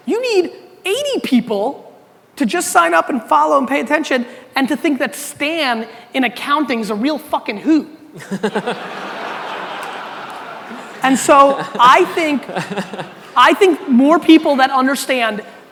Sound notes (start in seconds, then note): 8.2 audience laughter